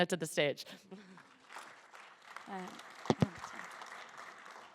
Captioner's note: applause